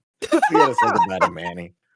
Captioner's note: laughing